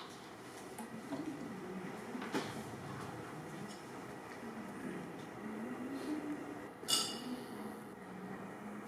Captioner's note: Hatter hums to himself